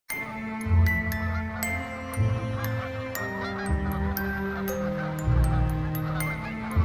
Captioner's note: soft orchestral music; geese honking